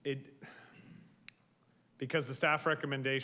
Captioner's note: sighs